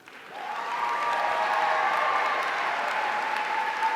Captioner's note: audience cheering